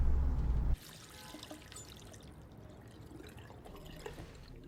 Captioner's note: faucet running